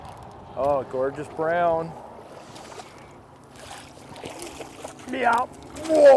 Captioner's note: splash